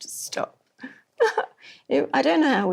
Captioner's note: laughs